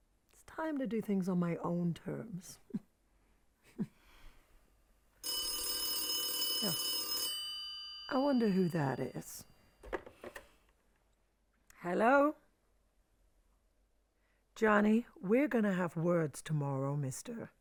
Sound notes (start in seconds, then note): 3.6 Tina snickers; 3.6 chuckles; 5.2 telephone ringing; 9.7 phone rattling